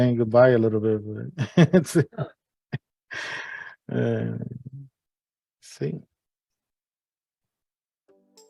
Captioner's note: laughter